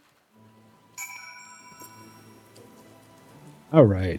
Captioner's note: bell ringing